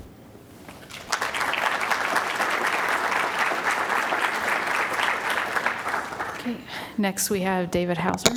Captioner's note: applause